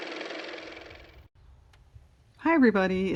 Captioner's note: car motor